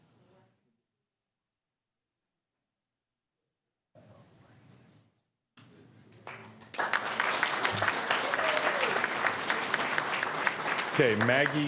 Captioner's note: applause